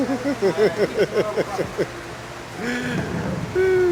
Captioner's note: laughing